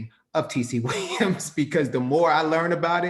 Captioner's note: chuckles